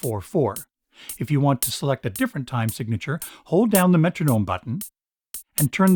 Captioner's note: metronome